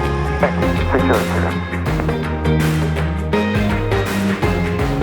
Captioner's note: Traffic; inspirational electronic music